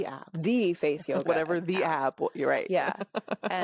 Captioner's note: laughs